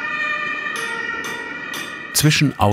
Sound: metal hammering

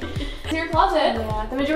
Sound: laughter

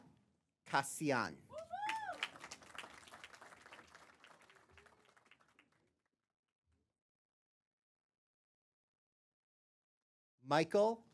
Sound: applause

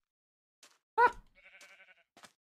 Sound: softly yelps

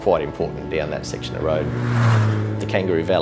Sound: engine buzzes

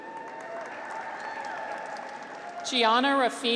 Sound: audience applauds; graduates cheer

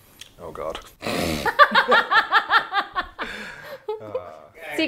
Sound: laughing

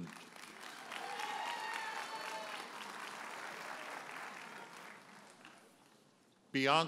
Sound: audience cheers and applauds

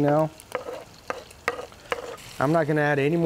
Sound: spoon scraping

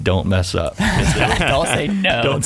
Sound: laughing

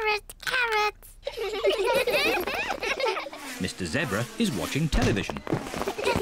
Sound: all giggle

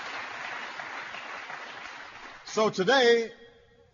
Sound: applause

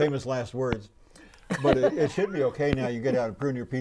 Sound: laughing

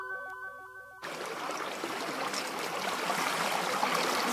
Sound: river water bubbling

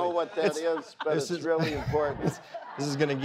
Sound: audience laughs

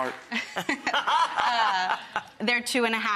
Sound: laughing

